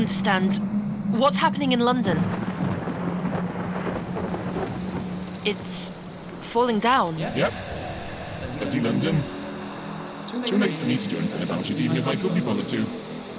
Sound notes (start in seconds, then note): 0.0 sound of thunder in the distance and rumbling